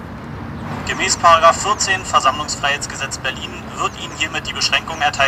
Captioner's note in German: aus Lautsprecher